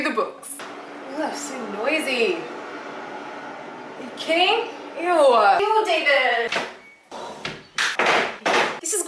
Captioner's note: windows and shutters closing